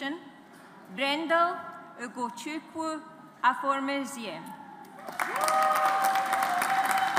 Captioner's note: audience applauds